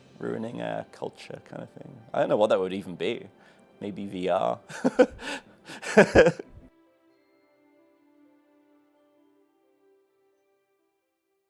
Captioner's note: laughs